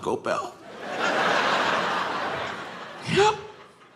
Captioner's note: audience laughing